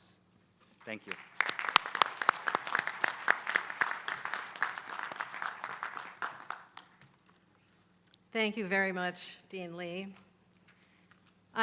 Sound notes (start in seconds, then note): 0.8 applause